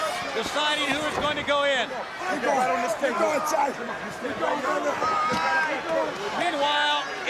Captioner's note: crowd chatter